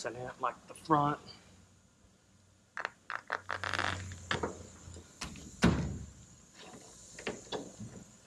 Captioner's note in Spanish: golpeando